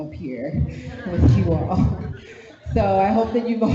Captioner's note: audience laughs